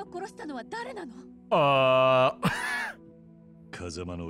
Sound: laughs

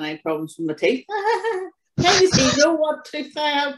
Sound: giggles

